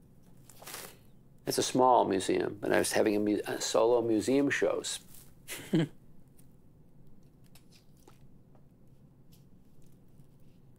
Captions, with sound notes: It's a small museum, and I was having solo museum shows. (laughs)